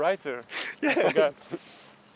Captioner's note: laughter